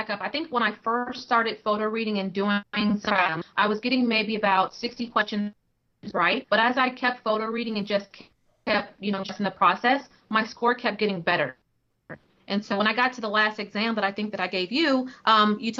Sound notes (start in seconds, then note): 2.8 technical interference